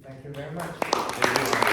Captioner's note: applause